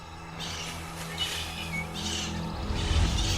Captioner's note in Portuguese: Folhas e galhos mexendo; Canto das araras